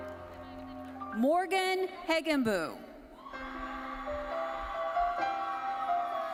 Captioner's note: audience cheering